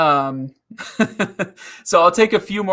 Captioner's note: laughing